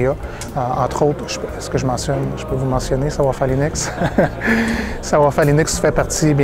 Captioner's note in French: rire